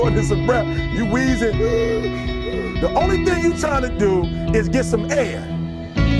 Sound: breath sound

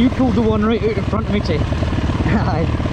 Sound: laughter

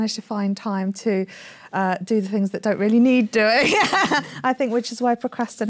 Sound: laughs

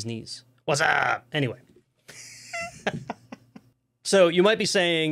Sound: laughs

